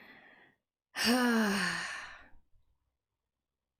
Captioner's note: big sigh